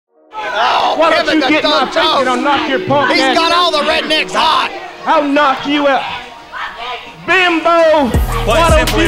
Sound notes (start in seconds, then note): 5.8 screaming